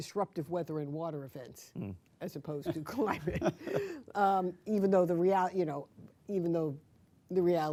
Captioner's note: laughter